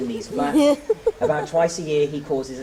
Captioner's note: giggling